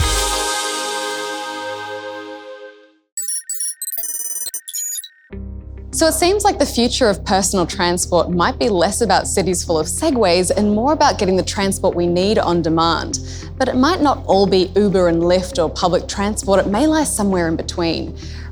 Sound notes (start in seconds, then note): 0.0 upbeat music; 3.2 computer beeps and screeches